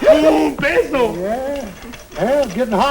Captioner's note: non-english speech